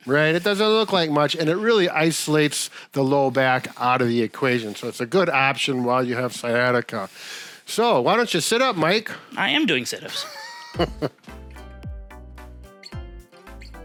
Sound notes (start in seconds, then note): 10.1 chuckling; 10.2 upbeat music